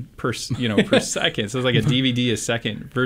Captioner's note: laughs